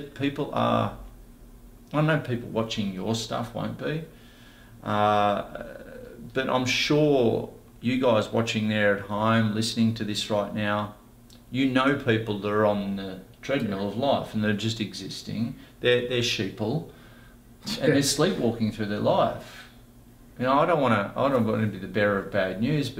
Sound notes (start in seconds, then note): 17.7 laughs